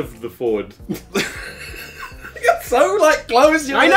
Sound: laughs

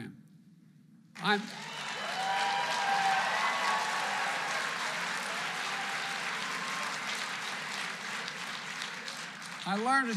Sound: applause

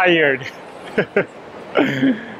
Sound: chuclkles

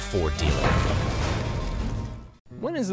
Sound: clanging

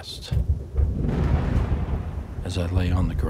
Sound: thunder crashing

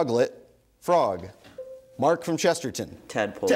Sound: bell dings

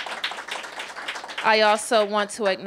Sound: applause

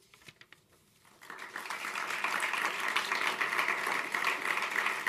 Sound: applause

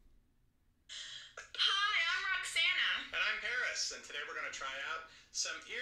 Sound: speaking from video

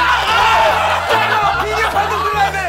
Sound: the match ends with a scream

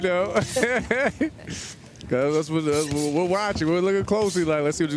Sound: laughter

